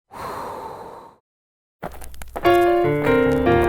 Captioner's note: girl sighs; record plays